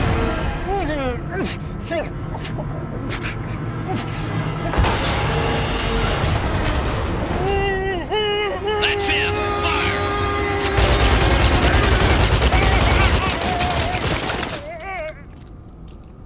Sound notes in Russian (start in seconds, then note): 0.2 заглушённые кляпом стоны и пыхтение; 4.7 блам; 7.4 отчаянные стоны; 10.2 заглушённый кляпом крик; 10.7 опрометчивый рататат; 14.4 жалкий хнык